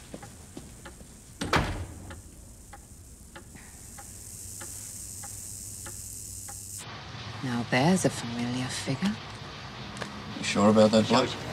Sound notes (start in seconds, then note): 1.4 door closes; 3.2 telephone buzzes electrically